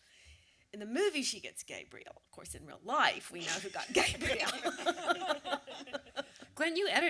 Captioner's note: laughter